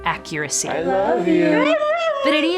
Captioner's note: howls